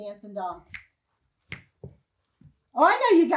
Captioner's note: snaps fingers